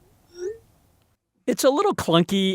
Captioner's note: notification chime